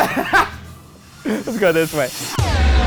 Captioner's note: laughing; spooky music